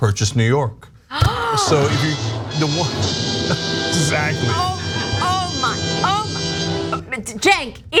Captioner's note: laugh